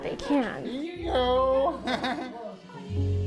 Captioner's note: laughs